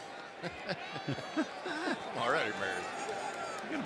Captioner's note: laughs